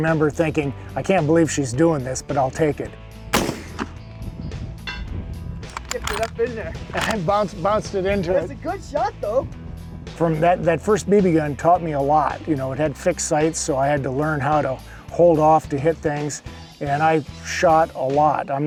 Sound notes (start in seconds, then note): 3.3 gun fires